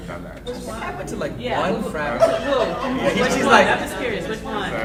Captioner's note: panel chattering